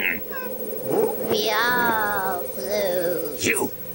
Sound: confuzzled bear sounds

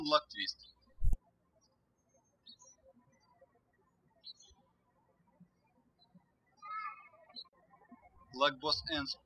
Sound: birds chirping

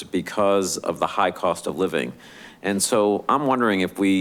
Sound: none

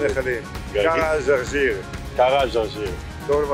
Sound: Arabic

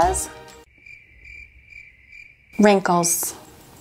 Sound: crickets chirping

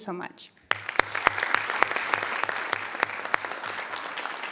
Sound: audience applauding

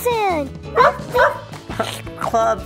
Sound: puppy barking; puppy eating

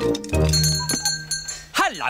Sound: bell ringing

